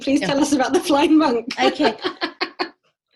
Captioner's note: laughs